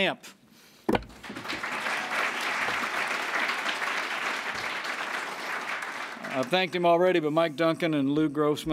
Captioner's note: applause